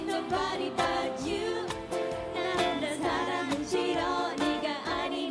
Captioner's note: korean